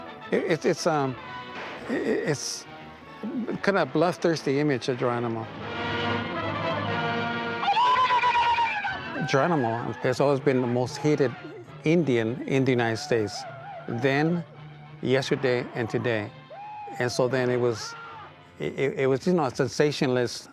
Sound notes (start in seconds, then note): 5.1 dramatic music; 7.6 Geronimo yelling